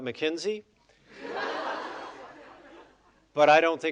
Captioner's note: audience laughing